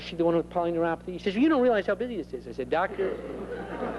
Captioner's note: laughter